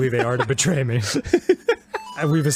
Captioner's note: laughter